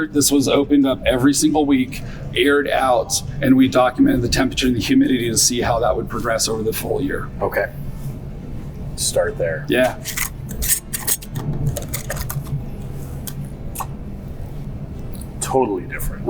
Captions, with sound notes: this was opened up every single week, aired out, and we documented the temperature and the humidity to see how that would progress over the full year. - Okay. Start there. - Yeah. (unscrewing of lid) - Totally different.